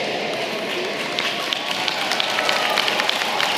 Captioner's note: applause